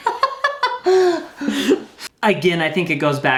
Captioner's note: laughs